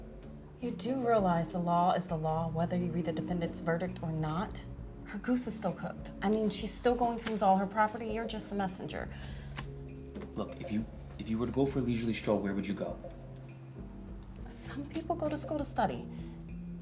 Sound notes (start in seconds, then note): none